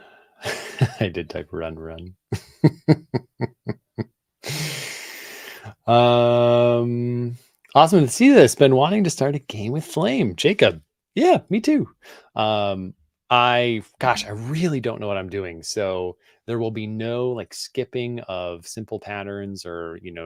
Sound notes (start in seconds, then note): 2.3 chuckles; 2.4 laughs